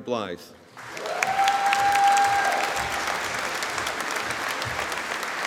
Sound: audience applauding

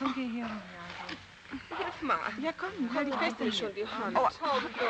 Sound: girls murmur

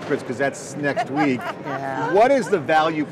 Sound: women laughing

